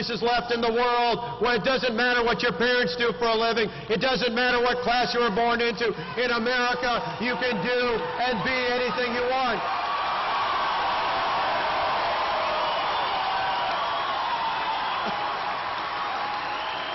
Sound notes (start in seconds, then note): 14.9 applause